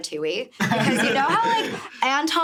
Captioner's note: laughing